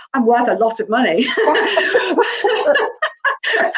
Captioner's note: laughs